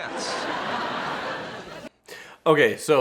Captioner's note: audience laughs